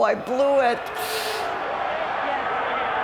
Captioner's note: crowd booing